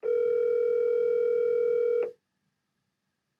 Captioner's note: phone ringing